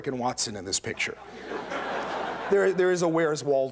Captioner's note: laughter